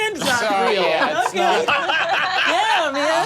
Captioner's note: group laughing